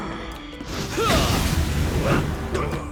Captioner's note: grunting